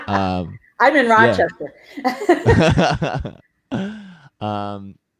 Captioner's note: laugh